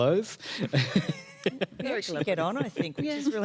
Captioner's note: laughs